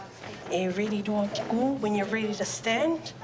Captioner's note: speaks samoan